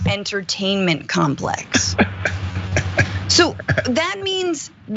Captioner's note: laugh